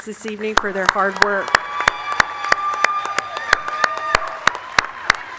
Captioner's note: audience cheer and clap